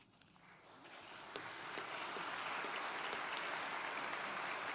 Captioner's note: audience applauding